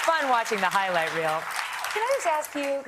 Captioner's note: applause